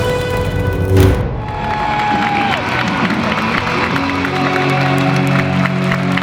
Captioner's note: cheers and applause